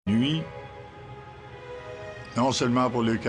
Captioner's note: speaking french